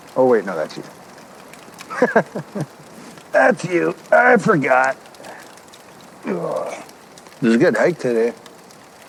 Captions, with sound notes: Oh wait, no that's you. (chuckles) That's you. I forgot (groans). It was a good hike today.